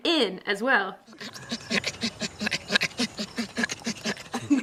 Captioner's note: laughing